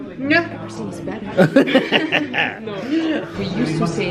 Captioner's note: laughs